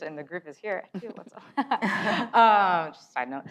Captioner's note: laughs